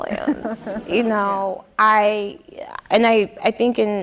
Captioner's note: audience laughing